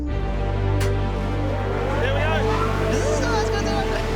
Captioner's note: turbine whirrs